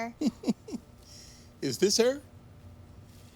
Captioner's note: laughs